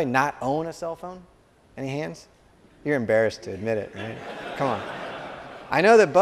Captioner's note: laughter